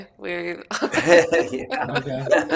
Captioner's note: laughter